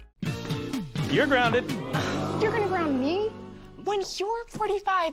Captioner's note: audience: Oooooo!